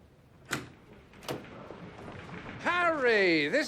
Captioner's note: door opening